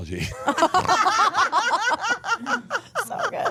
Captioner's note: laugh